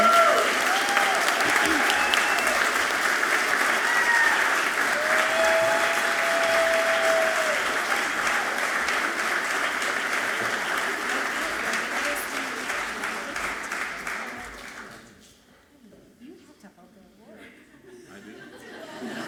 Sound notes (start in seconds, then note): 0.2 audience clapping and cheering loudly; 12.0 speaking away from mic; 19.1 audience laughing softly